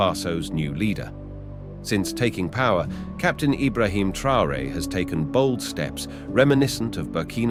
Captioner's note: voiceover